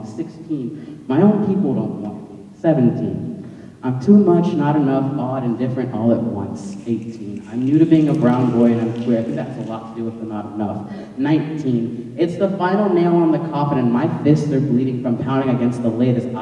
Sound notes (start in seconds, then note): 7.0 snapping